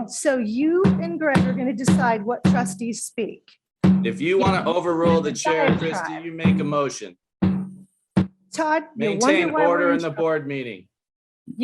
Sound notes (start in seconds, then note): 3.3 gavel bangs; 7.1 gavel bangs